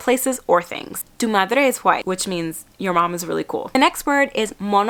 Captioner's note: speaking Spanish